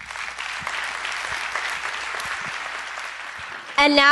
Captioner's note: applause